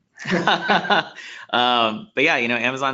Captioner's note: laughing